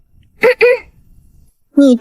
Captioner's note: cough cough